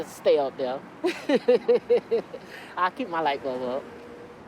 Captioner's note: laughing